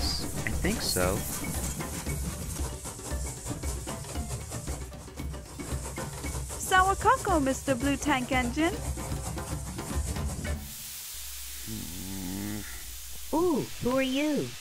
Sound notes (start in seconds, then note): 2.5 chuffing; 9.3 steam wheeshing; 11.7 grunting